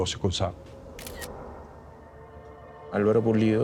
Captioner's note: camera shutter sound effect